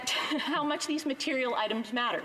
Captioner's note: speaking French